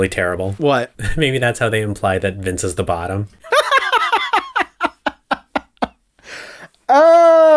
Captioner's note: laugh